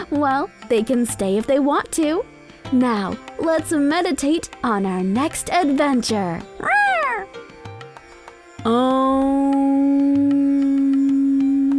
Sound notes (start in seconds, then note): 6.6 meow; 7.6 soft bright music